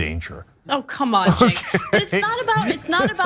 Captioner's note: laugh